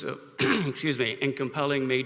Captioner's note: coughs